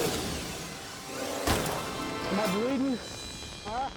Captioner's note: edgy dramatic music; bullet popping